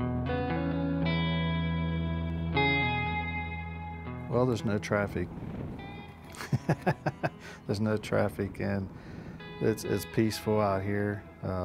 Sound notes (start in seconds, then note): 6.3 laughing